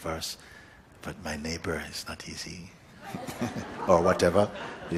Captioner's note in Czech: smích